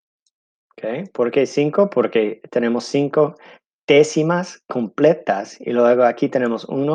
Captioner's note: speaking in foreign language